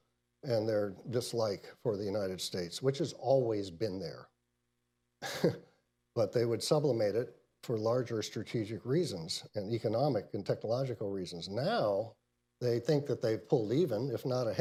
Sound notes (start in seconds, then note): 5.2 laughs